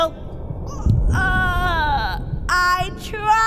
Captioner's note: low, distant thump